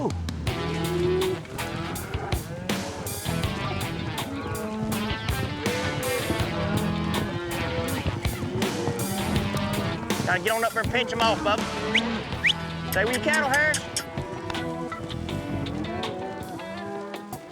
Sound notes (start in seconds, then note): 2.8 cattle moo; 11.8 whistles; 15.4 cattle moo